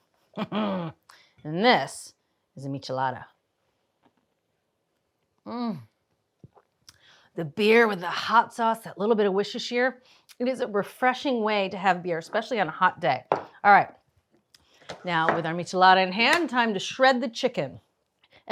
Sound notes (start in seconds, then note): 0.3 laughs; 5.5 moans